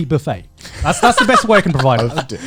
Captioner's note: laughing